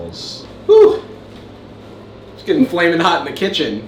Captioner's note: sighs exaggeratedly